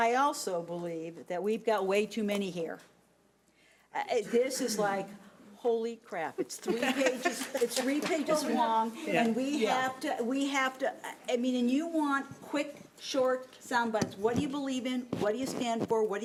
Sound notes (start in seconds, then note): 6.5 laughing